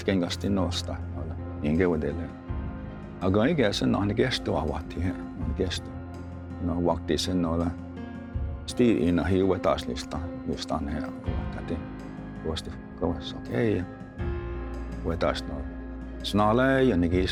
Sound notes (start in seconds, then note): 4.9 tells story in Cherokee language